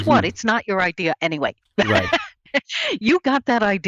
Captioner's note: laughs